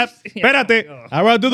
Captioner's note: speaking In Foreign Language